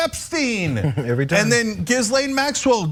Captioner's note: laugh